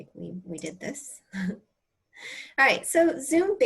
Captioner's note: laughter